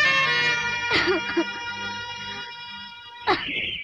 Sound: sobbing; birds - Chirping

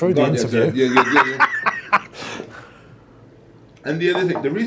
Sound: laughs

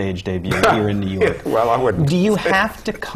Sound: laugh

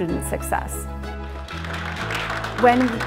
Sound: applause

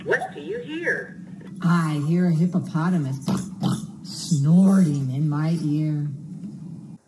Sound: snort, snort

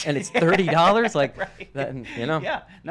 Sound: laughs

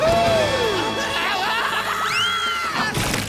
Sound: screams

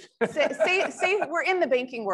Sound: laughs

